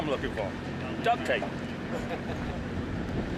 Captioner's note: chuckles